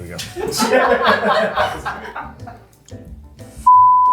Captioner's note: people laughing